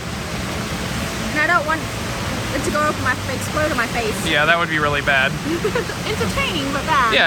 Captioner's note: laughs